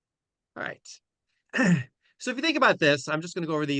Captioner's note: clears throat